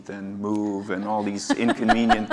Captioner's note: laugh